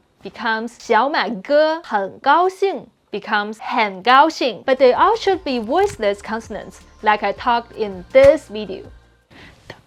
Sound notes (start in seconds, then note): 0.0 speaking in Mandarin